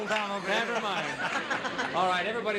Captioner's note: laughing